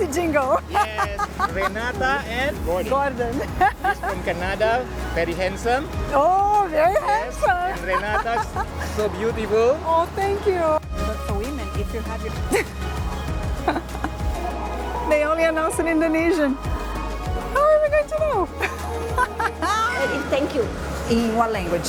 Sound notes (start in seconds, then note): 13.6 chuckles; 18.6 laughs